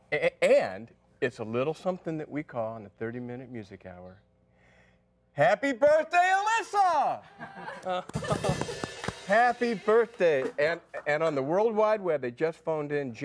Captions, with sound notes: - And it's a little something that we call the 30 Minute Music Hour. Happy birthday, Alyssa! ( applause ) Happy Birthday! And on the World Wide Web, they just phoned in,